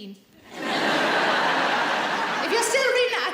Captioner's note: audience laughs